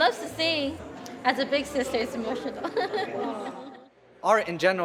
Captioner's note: risas